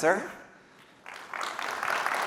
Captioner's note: applause